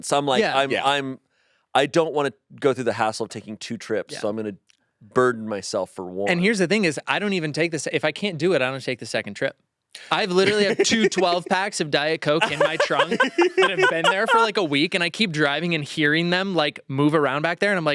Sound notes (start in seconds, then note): 12.4 laughing